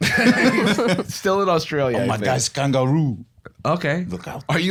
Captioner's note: French accent